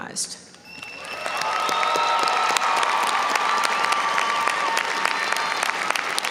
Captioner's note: audience cheering and applauding